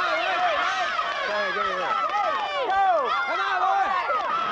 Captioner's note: shouting